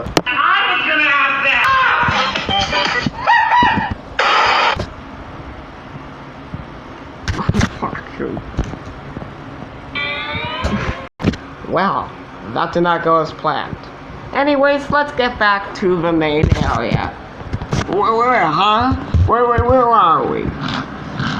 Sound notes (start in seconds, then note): 3.7 door Slam; 10.2 house Exploding